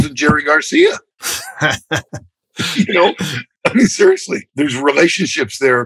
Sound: laughter

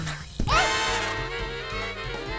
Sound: squeals

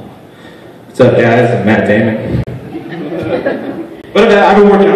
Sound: laughter

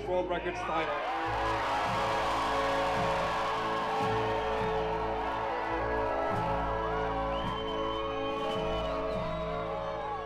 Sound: crowd noise

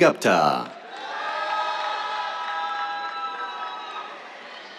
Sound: cheers, applause

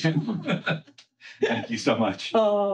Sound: laughing

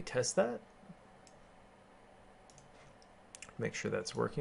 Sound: keyboarding

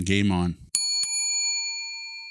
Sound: bell dings

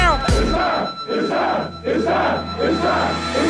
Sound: men chanting

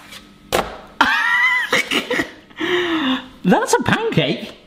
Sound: laughing

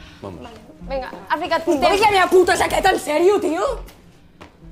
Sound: shouts

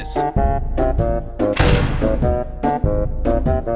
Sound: door Slam

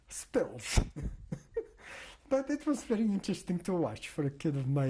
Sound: laughs

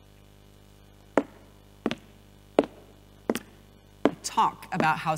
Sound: footsteps

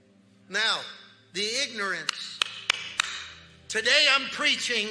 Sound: claps hands

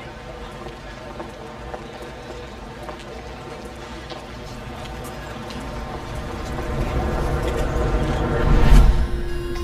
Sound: steps and cars passing

